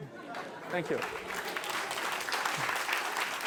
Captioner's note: applause